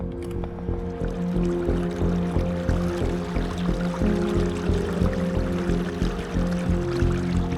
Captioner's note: suspenseful music continues; water lapping gently